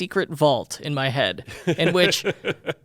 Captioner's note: laughs